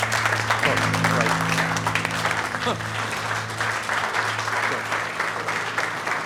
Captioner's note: applause